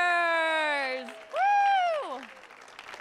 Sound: audience clapping

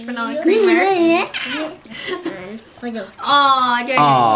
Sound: laughing

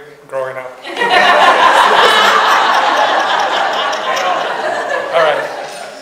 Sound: audience laughs

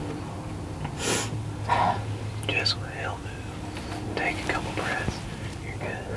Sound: whispering

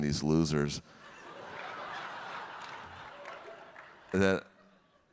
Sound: audience laughing; audience clapping

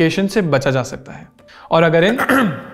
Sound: ahem

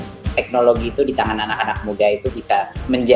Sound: non-english speech

